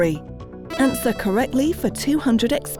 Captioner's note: buzzer sounds